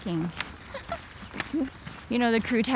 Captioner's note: laughs